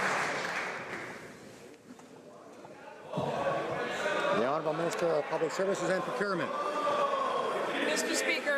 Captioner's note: some Applause